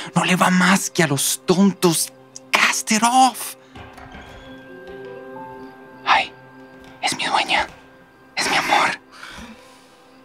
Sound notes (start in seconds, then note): 3.5 balcony doors opening